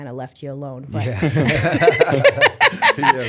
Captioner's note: chuckle